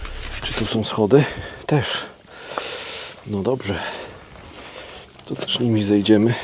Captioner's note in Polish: parsknięcie